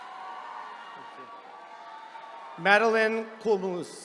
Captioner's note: attendees cheering